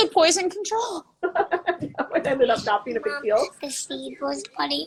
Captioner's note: laughing